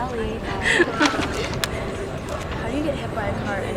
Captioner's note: chuckles